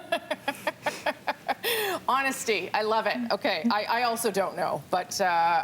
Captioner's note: laughter